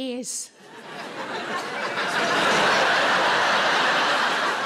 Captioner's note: audience laughing